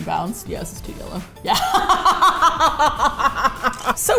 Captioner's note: laughs